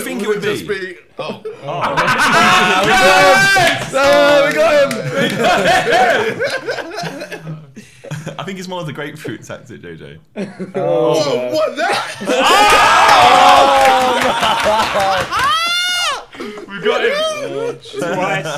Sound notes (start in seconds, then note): 2.9 laughing; 3.7 yelling; 6.1 laughing; 12.8 all yelling and laughing